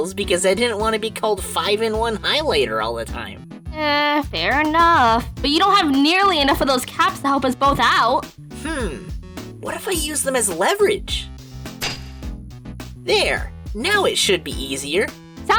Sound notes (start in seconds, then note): 11.4 clink!